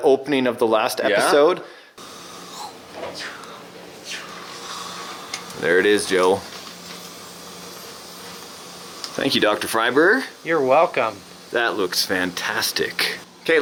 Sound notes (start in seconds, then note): 2.1 air whooshing